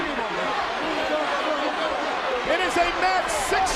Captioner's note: all chattering continues